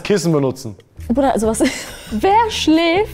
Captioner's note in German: Lachen